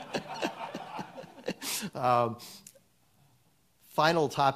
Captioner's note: audience laughs; laughs